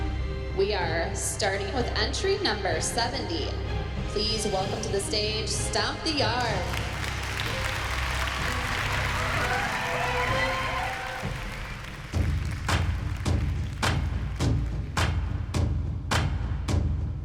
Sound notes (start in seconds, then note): 6.6 applause